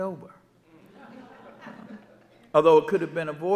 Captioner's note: audience laughing